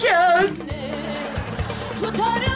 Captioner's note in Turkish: Gülme efekti